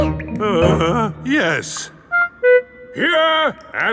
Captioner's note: groans